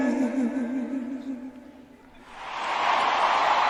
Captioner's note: applause